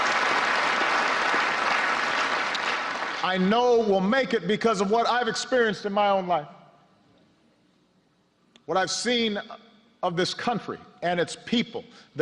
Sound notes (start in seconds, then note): 2.2 applause